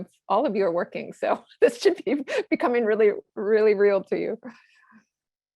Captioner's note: laugh